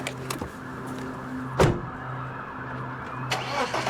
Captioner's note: door slamming; engine revving; sirens wailing